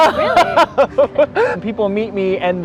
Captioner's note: laughing